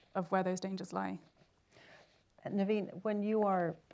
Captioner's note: silence